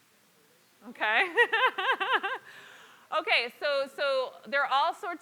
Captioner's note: laugh